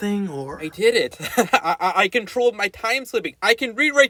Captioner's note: laughs